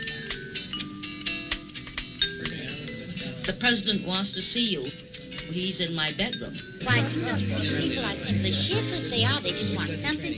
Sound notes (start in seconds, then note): 5.4 laughing